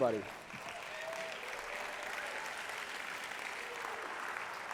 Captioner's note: applause